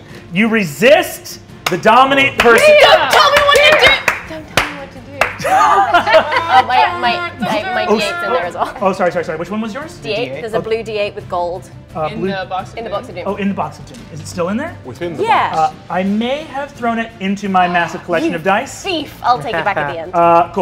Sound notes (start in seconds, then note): 5.4 players laughing